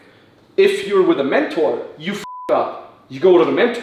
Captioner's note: beep